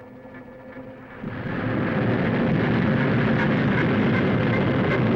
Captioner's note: rockets igniting